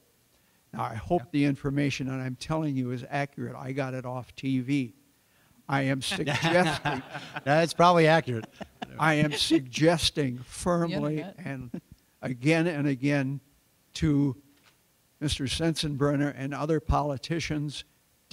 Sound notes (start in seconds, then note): 6.1 laughter